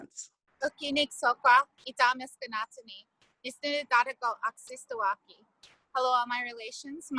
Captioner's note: speaking in foreign language